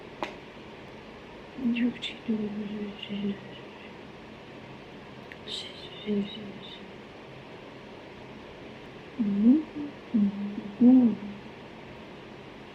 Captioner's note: more bizarre humming